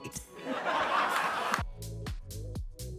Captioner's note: audience laughs; upbeat music